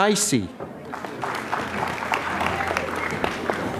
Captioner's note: applause